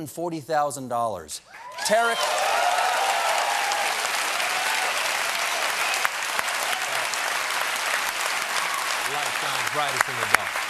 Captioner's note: cheers and applause